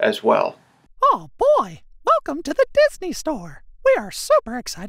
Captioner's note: recorded Voice